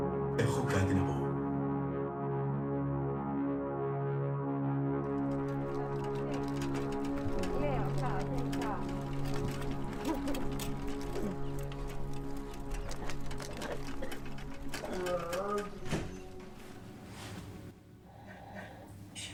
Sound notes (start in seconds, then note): 0.1 artificial male voice; 4.9 wheels on a paved road; 19.1 achmet – artificial male voice